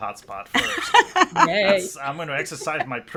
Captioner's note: laughs